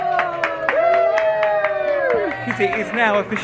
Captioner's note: all clapping